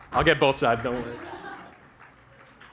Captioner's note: laughter; applause